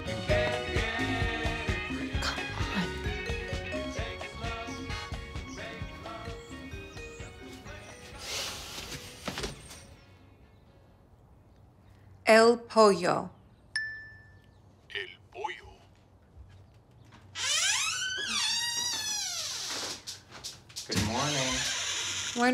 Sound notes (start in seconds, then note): 13.8 phone dings; 15.1 phone speaks Spanish; 17.2 door creaks